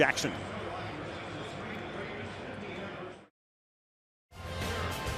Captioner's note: pa announcement